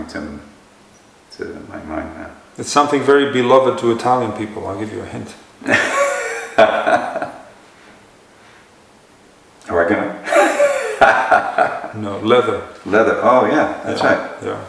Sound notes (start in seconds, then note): 12.6 laughter